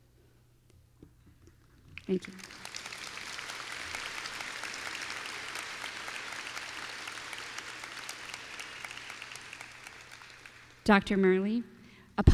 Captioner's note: applause